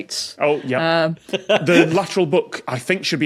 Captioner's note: laughs